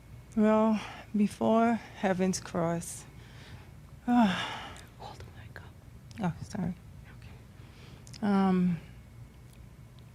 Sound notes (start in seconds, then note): 4.0 whispers; 8.1 whispers